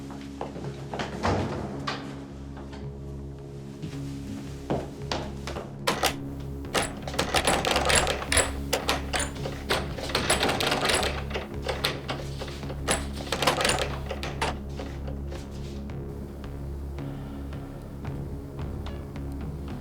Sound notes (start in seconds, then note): 1.4 closing door; 6.7 door shaking